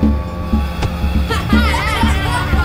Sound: thudding; children laughing

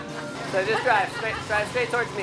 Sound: laughing

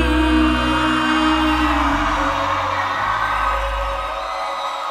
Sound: crowd cheering

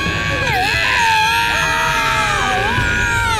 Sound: all screaming

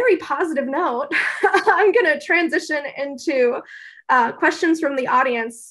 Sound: laugh

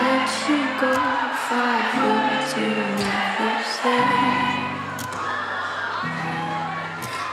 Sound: aww

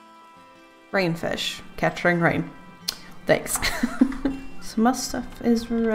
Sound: laughs

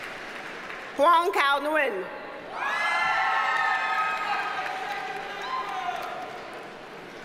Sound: audience cheers and applauds

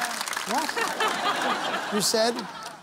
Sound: laughing

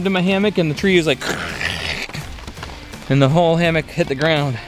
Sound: man imitates crashing

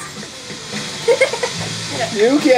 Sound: assistant giggles

